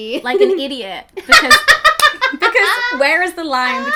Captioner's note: laughing